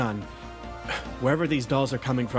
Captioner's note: sigh